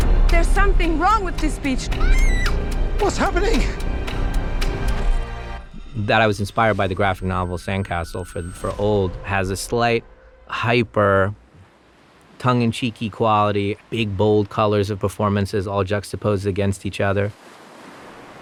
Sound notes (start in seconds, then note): 0.0 scary music; 1.9 child screams